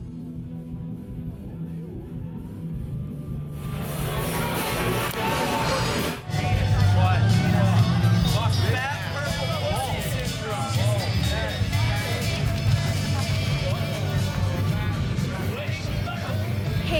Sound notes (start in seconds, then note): 0.3 loud rock music; 6.9 indistinct chats